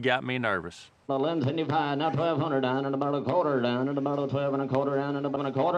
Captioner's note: auctioneering